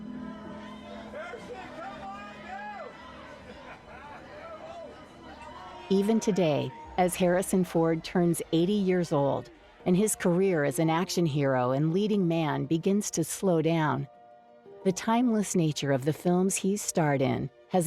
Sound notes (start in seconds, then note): 3.4 onlooker laughing